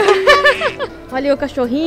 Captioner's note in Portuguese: Risos